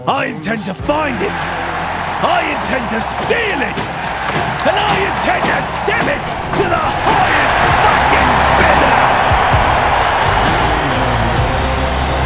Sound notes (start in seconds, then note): 1.5 crowd cheering; 3.7 crowd roars; 9.0 crowd cheering